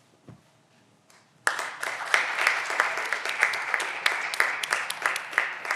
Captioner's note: audience applause